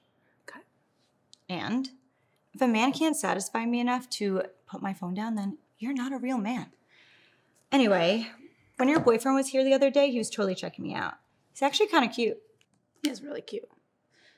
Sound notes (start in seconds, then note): none